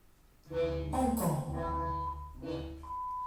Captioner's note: bright music; person speaking in foreign language; tone beeping